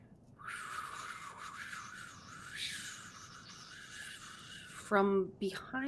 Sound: imitating wind blowing

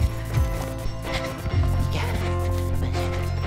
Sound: heavy breathing

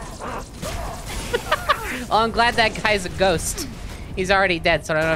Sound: laughing

